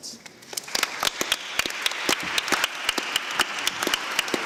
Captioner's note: applause